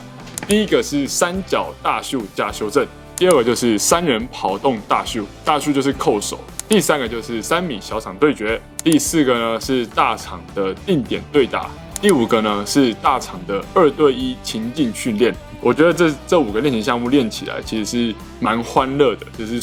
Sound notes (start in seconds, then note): 5.9 Taiwanese